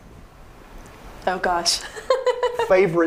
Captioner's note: laughing